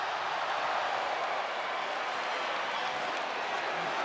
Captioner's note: audience cheers